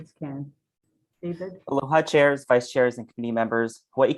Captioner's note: speaks in a foreign language